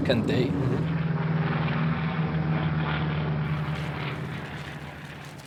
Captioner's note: airplane engine roaring